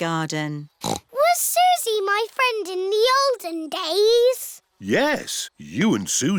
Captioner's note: snorts